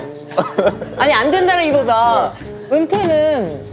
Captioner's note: hehehe